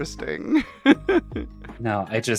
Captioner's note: laughs